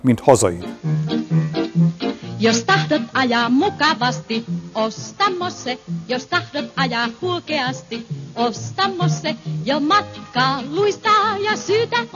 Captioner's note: 'Black and white commercial playing